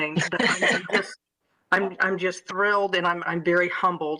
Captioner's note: laughter